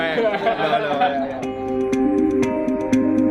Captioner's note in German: Gelächter im Hintergrund